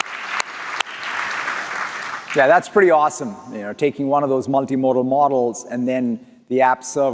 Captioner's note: applause